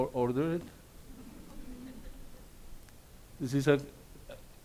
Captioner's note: audience laughs